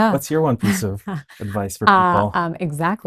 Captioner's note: chuckles